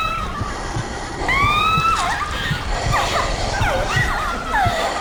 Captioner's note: spooky laughter